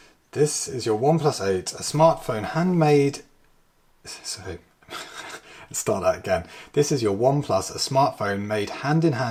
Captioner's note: laughs